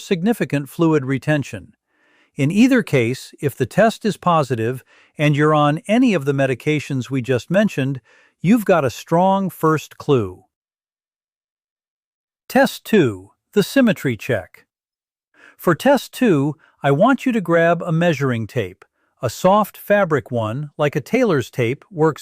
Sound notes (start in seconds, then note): 10.6 pause